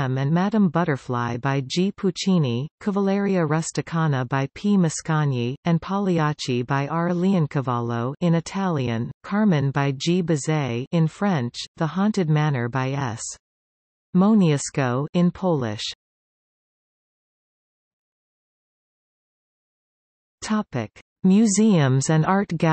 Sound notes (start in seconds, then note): 8.2 in Italian; 17.8 in Polish